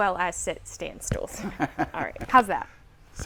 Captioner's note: laughing